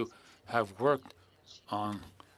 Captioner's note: speaking French